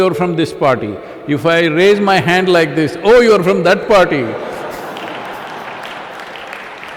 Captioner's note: applause